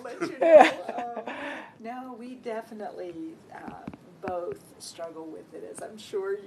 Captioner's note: laugh